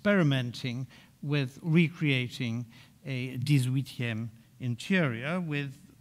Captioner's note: speaking in French